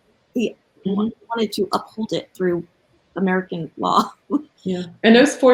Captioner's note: laughs